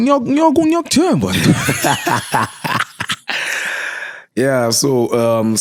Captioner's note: laughing